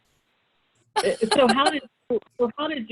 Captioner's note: laughs